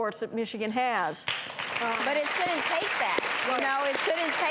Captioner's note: audience applause